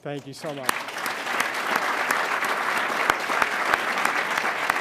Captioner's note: audience applauding